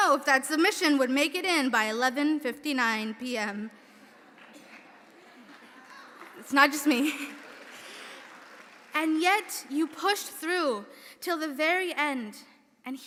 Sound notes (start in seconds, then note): 3.9 audience laughing; 4.2 audience applauding